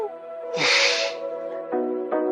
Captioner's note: lauaughs